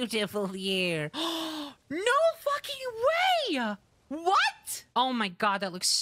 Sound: gasp

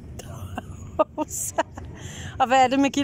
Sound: laughing

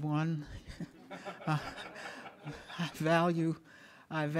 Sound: audience laughing

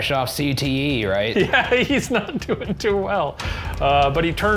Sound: laughing

